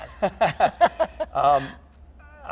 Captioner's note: both laughing